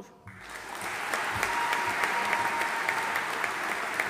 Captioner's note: audience applauding